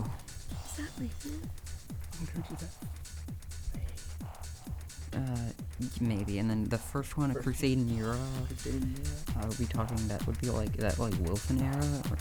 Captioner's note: whispering